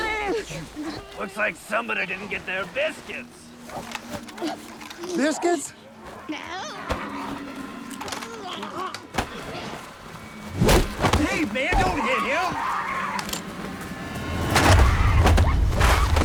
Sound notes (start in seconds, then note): 6.0 grumbling; 11.7 screaming; 14.3 dramatic music